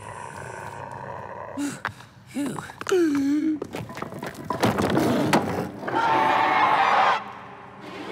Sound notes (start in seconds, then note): 0.0 sighs; 3.1 gasps; 4.1 thudding; 5.4 growls